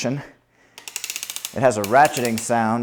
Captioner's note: platform arm rattling